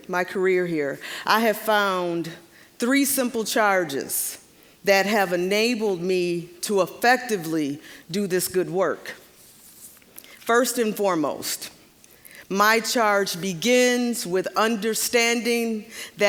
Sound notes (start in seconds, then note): none